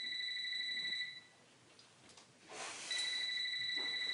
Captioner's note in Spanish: Suena el celular